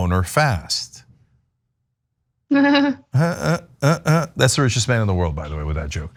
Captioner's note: laugh